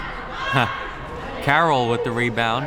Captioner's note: laughs